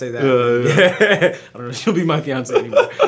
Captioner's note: laughs